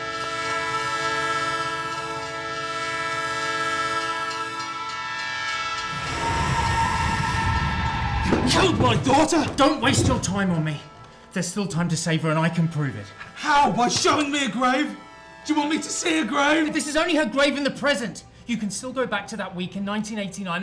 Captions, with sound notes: (train hissing continues) (train rumbling) - You killed my daughter! - Don't waste your time on me! There's still time to save her and I can prove it. - How? By showing me a grave. Do you want me to see a grave? - This is only her grave in the present, you can still go back to that week in 1989